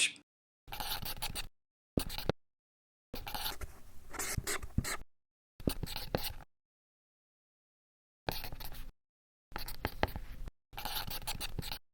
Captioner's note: sound of marker on white board